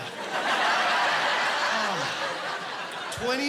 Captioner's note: laughing